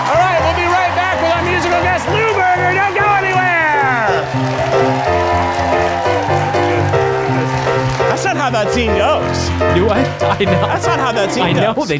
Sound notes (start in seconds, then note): 0.0 audience cheering; 4.8 audience applauding; 4.8 upbeat music